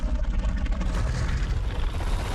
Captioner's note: growling